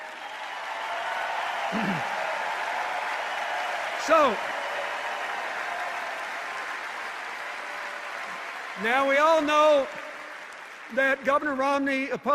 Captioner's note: cheers and applause